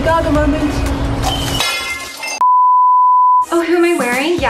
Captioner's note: mug shattering